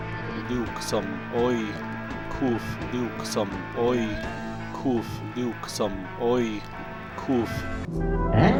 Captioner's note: FAKE John Lennon's voice